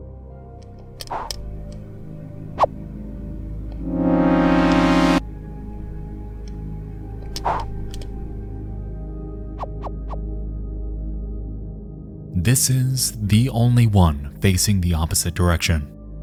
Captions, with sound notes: (game sound effects) This is the only one facing the opposite direction.